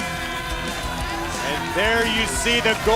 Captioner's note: crowd cheering